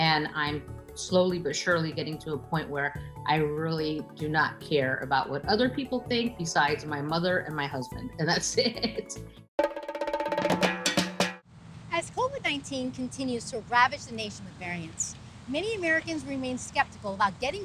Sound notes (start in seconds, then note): 8.4 laughing